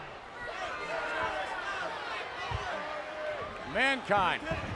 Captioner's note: crowd chattering